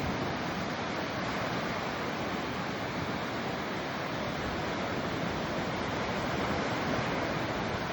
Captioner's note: gentle wave sounds continue until fade out